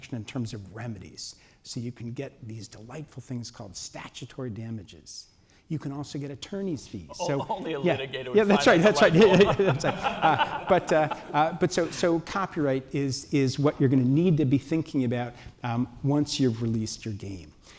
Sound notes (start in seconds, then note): 8.4 laughter